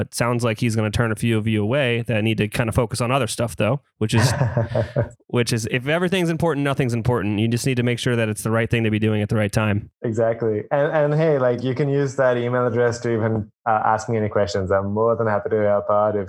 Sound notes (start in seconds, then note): 4.1 laughs